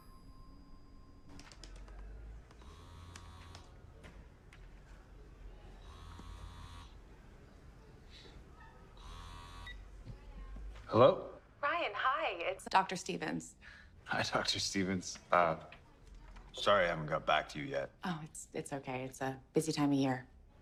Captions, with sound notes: (phone vibrating) (phone vibrating beeping) - Hello. - Ryan. Hi. It's Dr. Stevens. Hi, Dr. Stevens. Sorry, I haven't got back to you yet. Oh, it's okay. It's a busy time of year.